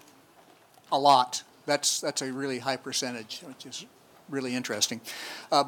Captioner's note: none